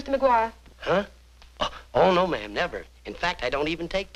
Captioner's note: cough